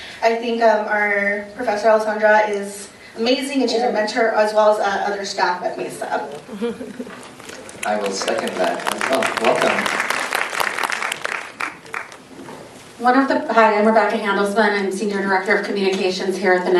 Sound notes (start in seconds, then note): 7.4 applause